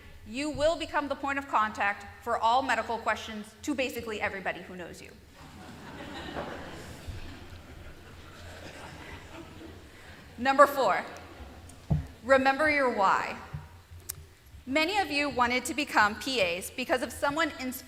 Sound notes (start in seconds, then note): 5.4 laughter